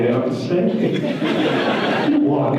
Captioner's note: audience laughter